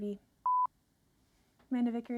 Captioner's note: beeps